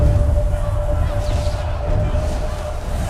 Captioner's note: crowd chanting